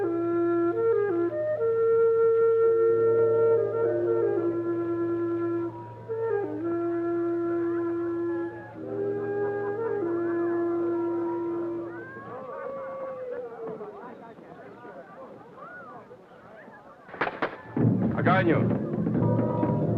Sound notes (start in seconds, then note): 10.3 crowd chattering happily; 17.2 drumming music; 17.4 hands clap; 18.4 Timickpao speaks foreign language; 19.8 indigenous drumming music